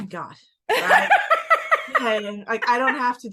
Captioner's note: laughing